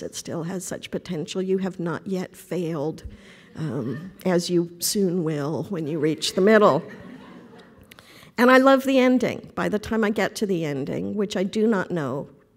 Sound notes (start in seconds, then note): 6.7 laughter